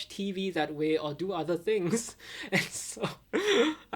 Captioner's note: chuckling